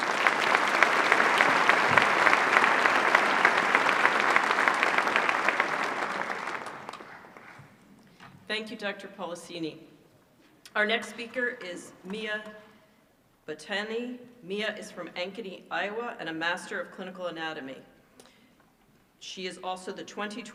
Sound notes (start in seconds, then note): 4.1 applause